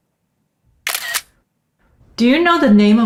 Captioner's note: camera clicking